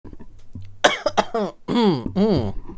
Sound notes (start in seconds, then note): 0.8 coughs; 0.9 clears throat